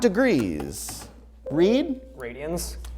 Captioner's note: ringing